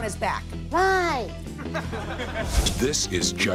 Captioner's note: audience laughs